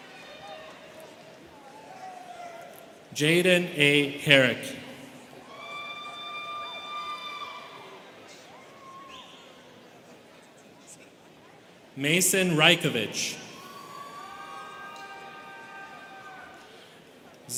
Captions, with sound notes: Jaden A. Herrick. (students cheering) Mason Rykovich. (students cheering)